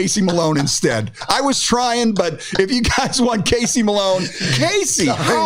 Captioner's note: laughs